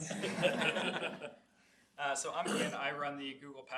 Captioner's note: laughing